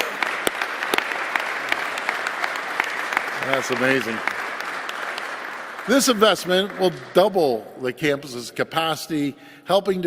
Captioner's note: applause